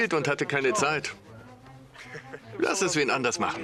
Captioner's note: William laughs